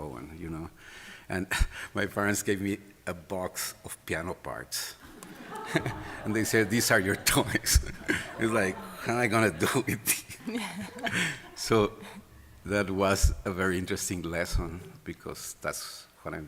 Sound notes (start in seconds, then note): 5.5 laughter; 10.4 laughing